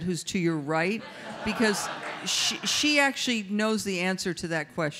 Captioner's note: audience laughs